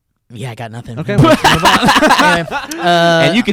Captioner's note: laughs